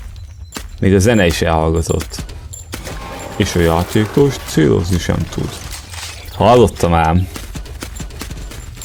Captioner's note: narrator voice